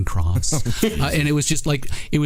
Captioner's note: laughing